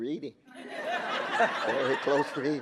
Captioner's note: audience laughing